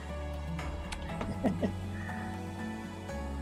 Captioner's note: laughs